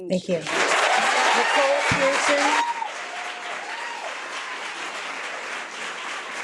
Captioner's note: audience clapping